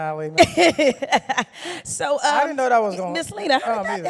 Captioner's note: laughs